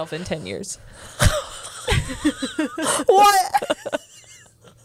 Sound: laughs

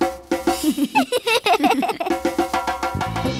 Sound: giggling

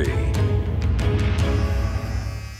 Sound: dramatic music; shaver buzzing

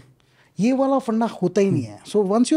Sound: speaks in Hindi

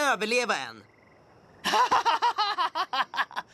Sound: laughing

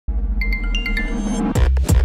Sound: apple watch ringtone

